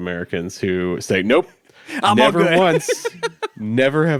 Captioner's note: laughs